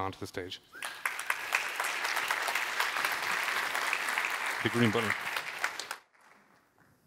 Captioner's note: applause